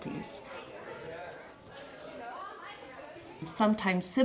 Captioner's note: crowd speaking